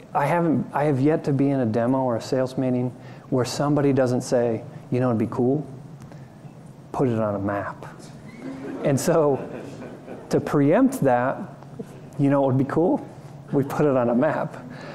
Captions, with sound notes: I have yet to be in a demo or a sales meeting where somebody doesn't say, you know what'd be cool? Put it on a map. (laughter) And so preempt that, you know what would be cool? We put it on a map.